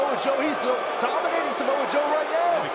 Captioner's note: crowd cheering